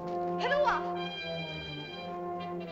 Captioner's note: ominous music; girl speaks in caveman language; suspenseful music